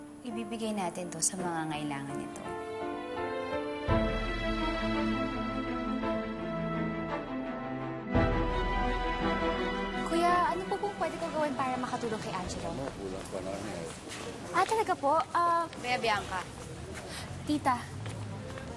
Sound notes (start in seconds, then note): 2.6 tense music; 12.8 busy chatter